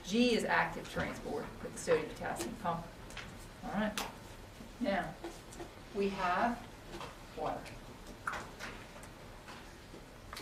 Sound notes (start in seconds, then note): none